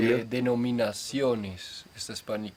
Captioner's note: in Spanish